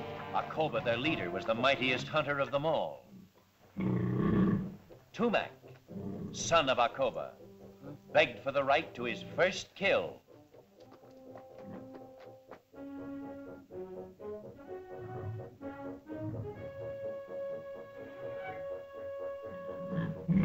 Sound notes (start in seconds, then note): 3.7 dinosaur growls; 12.5 suspenseful music; 19.9 dinosaur growls